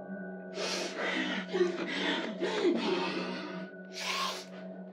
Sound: sniffing and grunting

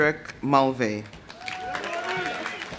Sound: audience applauding; audience cheering

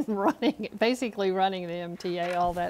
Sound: laughter

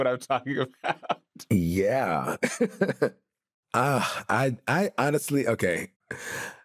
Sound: laughs

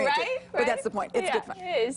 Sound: laughter

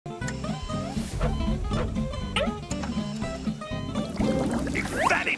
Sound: beeping

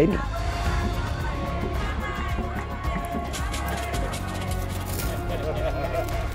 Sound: cheering and laughing and singing

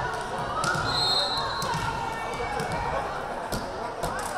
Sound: whistle blaring

